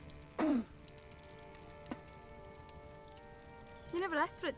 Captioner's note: man spits loudly